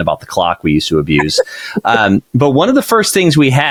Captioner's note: chuckles